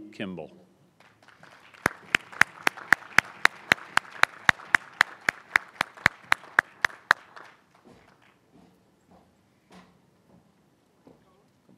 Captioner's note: applause